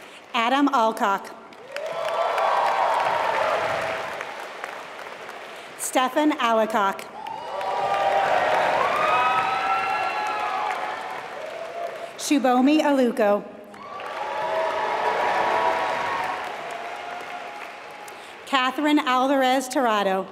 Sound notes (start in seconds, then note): 1.4 applause; 7.1 applause; 13.7 applause